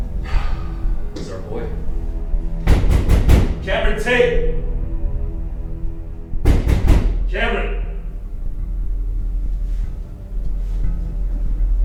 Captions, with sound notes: - (sighs) This is our boy. (loud banging upon door) Cameron Tate. (loud banging upon door) Cameron. (ominous music)